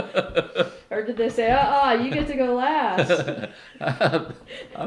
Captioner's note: laughter; laughter